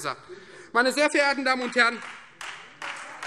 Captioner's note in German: Beifall Freie Demokraten